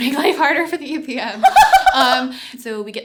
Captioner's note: laughter